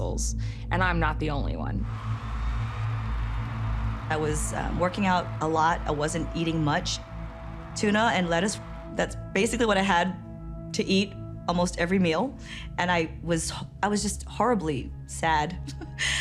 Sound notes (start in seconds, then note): 2.4 audience applauding and cheering; 15.7 chuckles